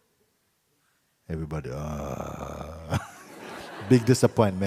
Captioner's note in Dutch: gelach